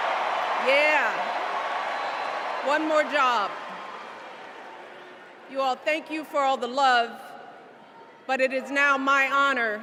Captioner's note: cheers and applause